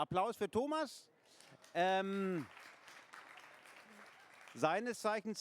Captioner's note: applause